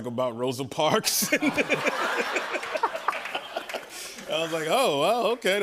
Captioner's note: laughter